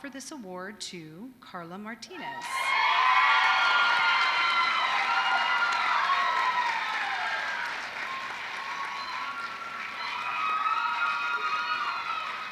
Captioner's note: applause